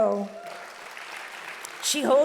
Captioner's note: audience applauding loudly